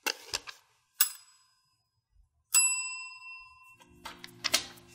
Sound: bell ringing

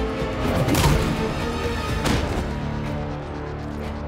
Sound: Nolan thudding

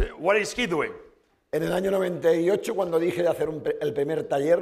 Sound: speaking spanish

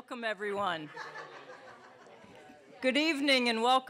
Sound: laughter

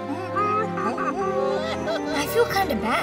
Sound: monkey sounds

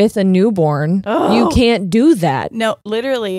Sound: groans

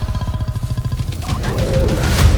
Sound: growls; low guttural growl

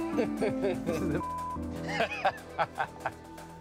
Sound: laughs

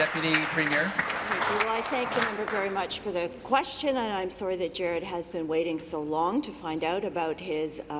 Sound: applause

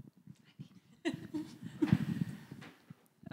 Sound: laughing

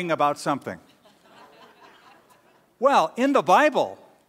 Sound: laughter

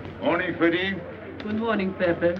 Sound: speaking foreign language

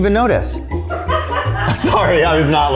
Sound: laughing

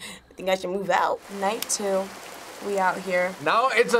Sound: rain pouring

